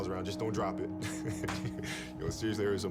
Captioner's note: laughs